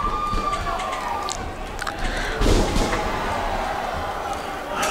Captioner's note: crowd cheering